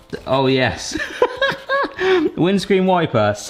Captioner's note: laughing